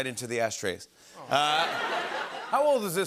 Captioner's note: laughter